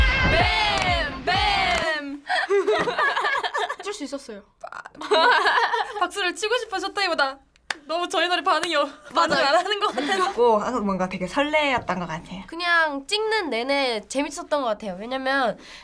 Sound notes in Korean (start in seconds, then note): 2.3 웃음